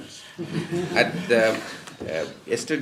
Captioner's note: laughter